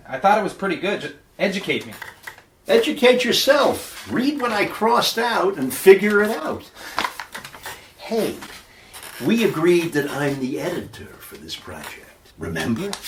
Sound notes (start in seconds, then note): none